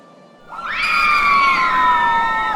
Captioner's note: city screams